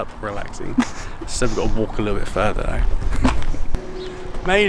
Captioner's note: laughing